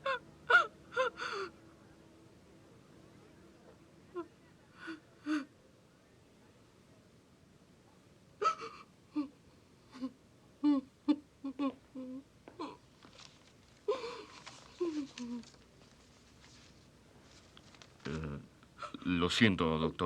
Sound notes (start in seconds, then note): 2.4 sobbing